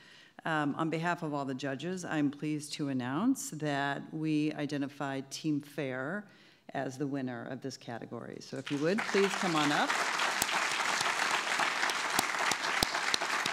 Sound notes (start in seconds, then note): 8.6 audience clapping; 8.6 clapping